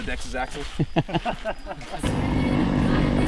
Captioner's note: laughing; engines revving and drowning out singing